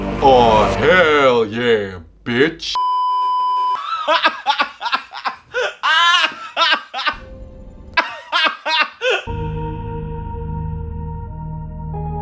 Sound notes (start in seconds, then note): 2.8 beeeeeeeeeeeep; 3.8 wheezing laughter